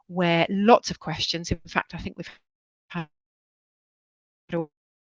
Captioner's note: audio loss